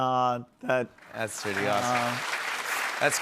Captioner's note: applause